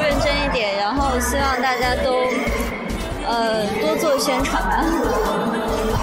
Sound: in mandarin

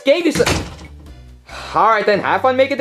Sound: door slams; Junior sighing

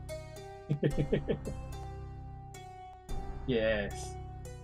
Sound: chuckles

